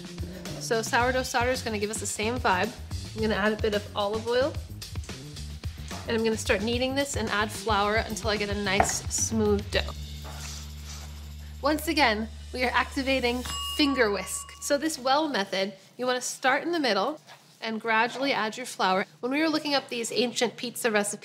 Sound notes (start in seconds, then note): 13.4 bell rings